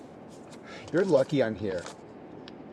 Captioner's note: scoffs